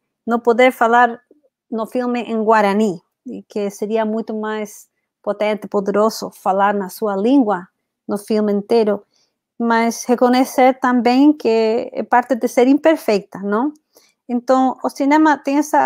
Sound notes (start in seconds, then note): 4.4 speaks portuguese